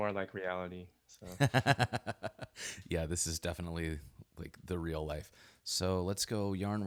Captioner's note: laughs